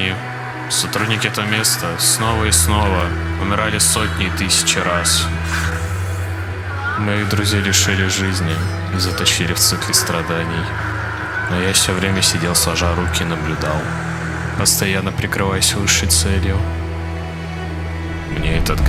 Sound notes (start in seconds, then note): 0.0 screams of employees and breached abnormalities; 14.6 static from monitors